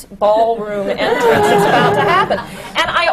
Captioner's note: laughter